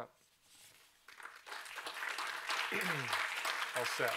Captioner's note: applause